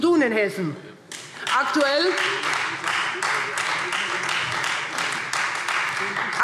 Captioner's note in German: Beifall Freie Demokraten